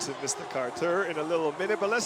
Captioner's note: cheering